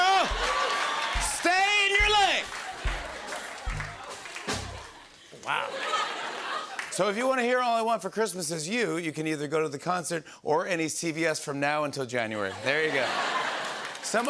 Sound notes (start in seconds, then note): 0.3 laughter and applause; 2.9 laughter; 12.4 laughter